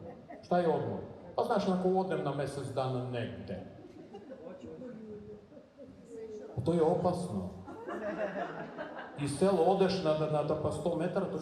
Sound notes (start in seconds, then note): 3.8 audience laughs; 8.0 laughing continues